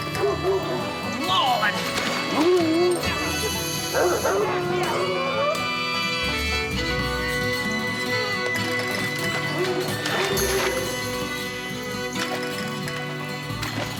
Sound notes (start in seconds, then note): 0.0 dog barking; 9.4 dog barking in distance